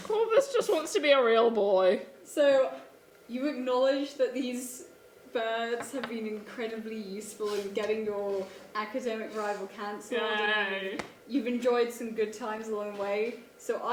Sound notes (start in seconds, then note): none